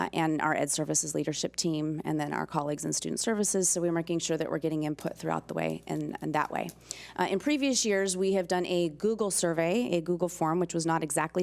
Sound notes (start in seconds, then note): none